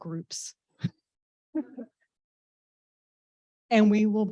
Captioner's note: laughs